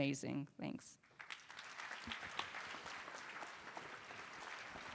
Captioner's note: applause